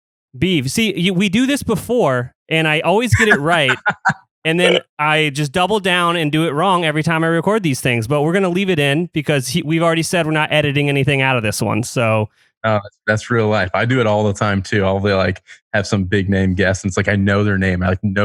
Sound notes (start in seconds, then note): 3.1 laughs